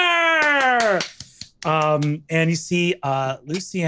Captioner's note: applauds